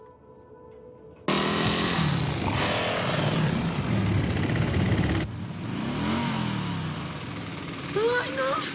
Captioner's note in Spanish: Ruido de la motocicleta